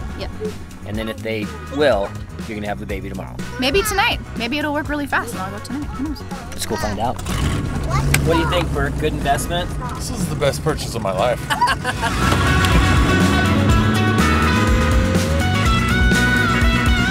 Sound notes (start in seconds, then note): 7.9 engine revs; 11.3 laughter; 14.0 upbeat rock music